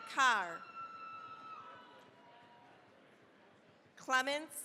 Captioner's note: cheering, applause